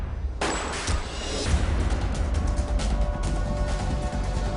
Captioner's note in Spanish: Disparo